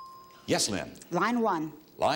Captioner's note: bell dinging